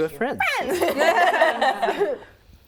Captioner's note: laughing